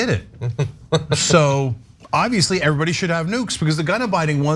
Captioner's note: laugh